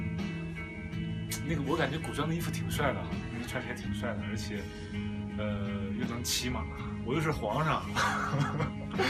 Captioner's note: laughs